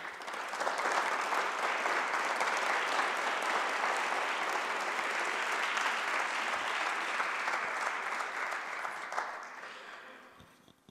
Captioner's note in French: le public applaudit